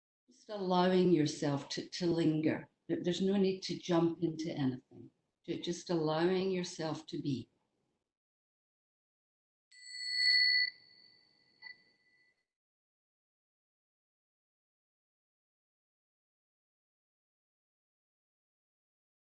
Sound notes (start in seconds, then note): 7.3 bell rings